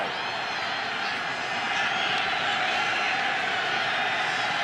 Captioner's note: cheering